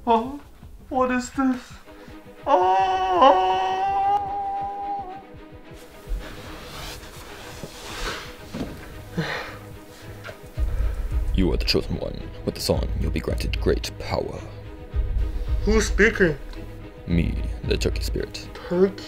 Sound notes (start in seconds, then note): 2.4 wails